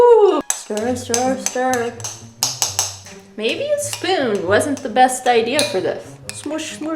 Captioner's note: clang, clang, clang